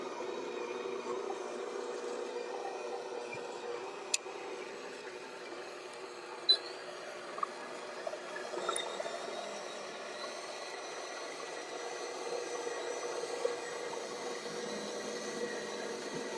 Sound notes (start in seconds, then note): 0.0 mixer whirling; 6.4 mixer beeps; 8.6 mixer whirling